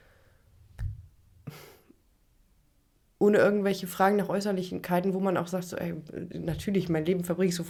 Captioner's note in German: schnauben